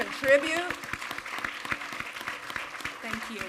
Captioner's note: audience applaud